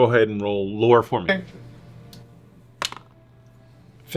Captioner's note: die rolls